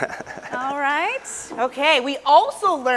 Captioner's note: laughs